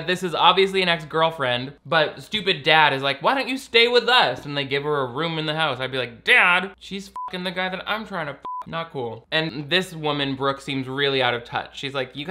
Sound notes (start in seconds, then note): 8.4 beep